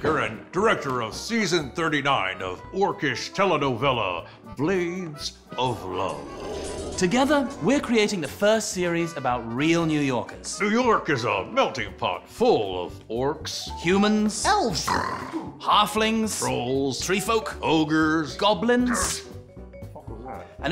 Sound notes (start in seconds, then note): 14.9 snarling